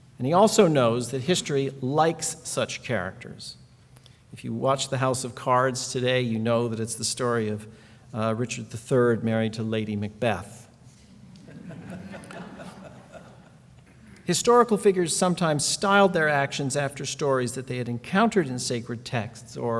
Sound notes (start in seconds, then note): 11.3 laughing